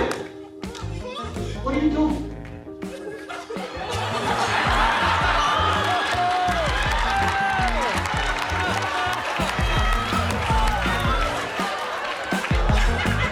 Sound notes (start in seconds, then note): 2.8 laughter